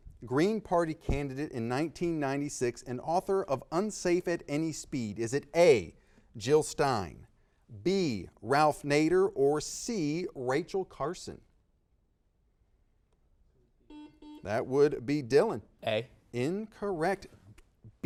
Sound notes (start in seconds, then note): 13.8 buzzer beeping